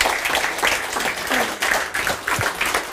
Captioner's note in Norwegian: Applaus